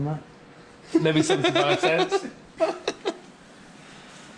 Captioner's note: laughs